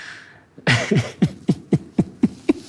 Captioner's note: laughter